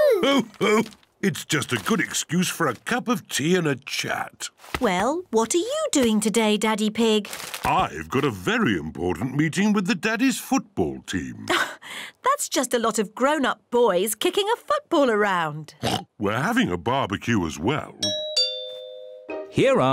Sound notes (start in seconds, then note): 15.8 oinks; 18.0 doorbell rings